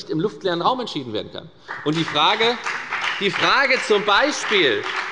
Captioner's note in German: Beifall bei der FDP und bei Abgeordneten der SPD